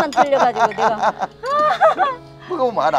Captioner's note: both laughing